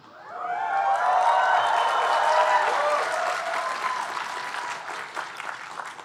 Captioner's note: audience cheering and applauding